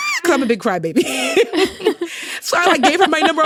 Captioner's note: both laughing